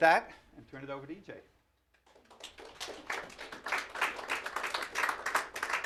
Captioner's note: applause